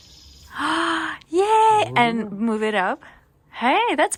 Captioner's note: gasps